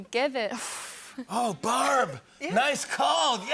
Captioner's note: breathes deeply